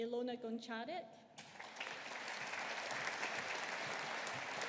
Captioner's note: audience applauding